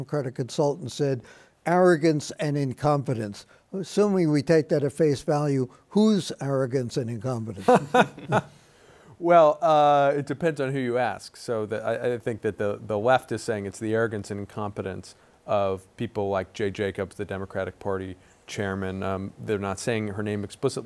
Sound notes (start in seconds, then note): 7.6 laughs